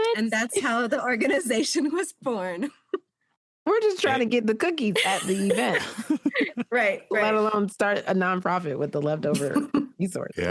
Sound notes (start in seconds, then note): 2.6 chuckles; 6.6 laughter